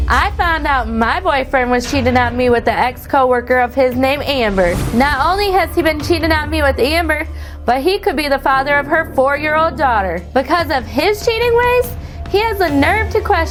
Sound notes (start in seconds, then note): none